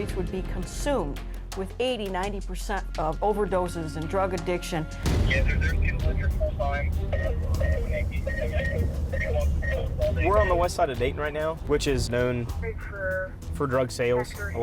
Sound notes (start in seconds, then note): 5.5 radio chatter